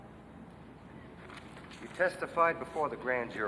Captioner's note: paper crackling